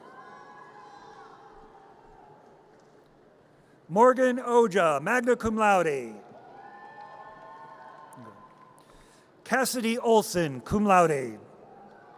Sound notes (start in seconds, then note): 0.3 audience cheers; 6.2 audience cheers